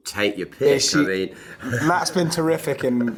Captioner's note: laughs